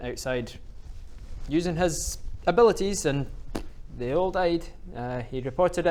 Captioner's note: pfft